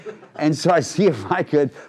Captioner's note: crowd laughing